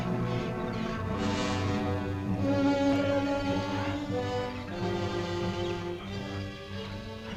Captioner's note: animals chittering; unsettling orchestral music